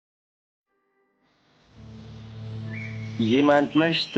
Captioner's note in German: Im Hintergrund Naturgeräusche